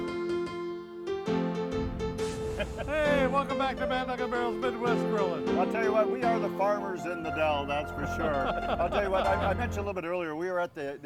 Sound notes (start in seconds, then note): 1.7 brand sizzling; 7.7 all laughing